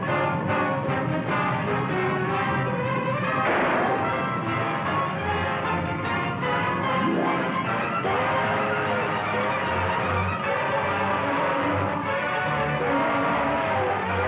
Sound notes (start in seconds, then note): 3.4 gun firing